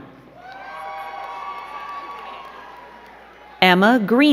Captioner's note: crowd cheering and clapping